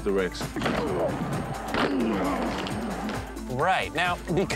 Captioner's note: grunting